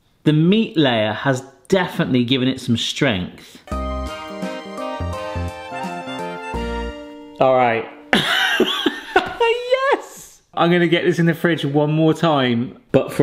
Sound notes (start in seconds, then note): 3.6 upbeat music; 8.1 laughs